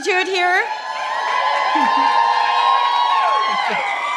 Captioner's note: cheering